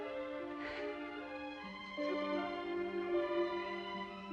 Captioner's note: crying - Laughing